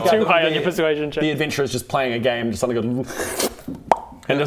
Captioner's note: slurp...pop!